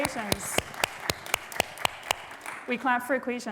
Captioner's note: applause